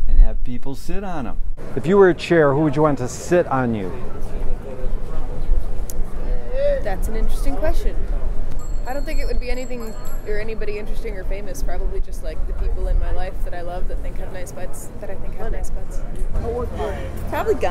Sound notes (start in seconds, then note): 4.5 men talking in background